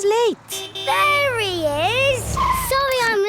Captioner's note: honking